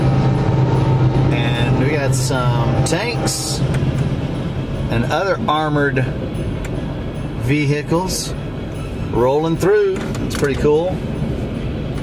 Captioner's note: train horn continues to blow